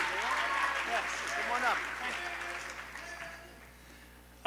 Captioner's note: applause